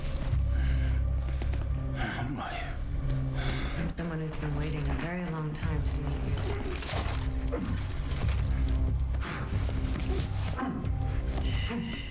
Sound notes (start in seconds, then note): 7.5 grunting